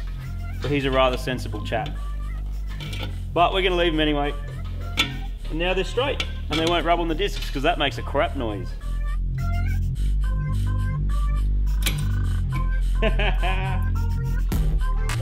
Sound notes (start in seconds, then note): 11.8 pin snaps; 12.5 laughs